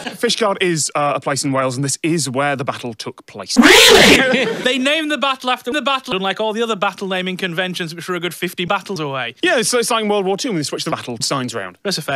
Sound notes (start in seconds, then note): 3.5 loud, pitchshifted and distorted